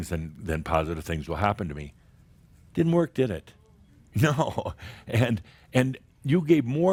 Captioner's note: Adamus chuckles